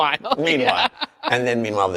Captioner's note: laughs